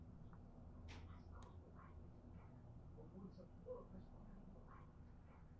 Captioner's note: TV chatters quietly in background